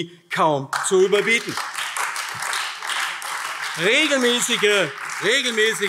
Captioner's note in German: Beifall AfD